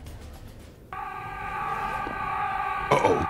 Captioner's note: aaaaaaaaaaaaaa